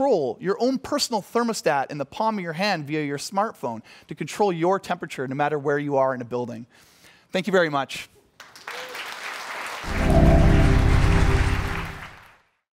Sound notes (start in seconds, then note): 8.3 applause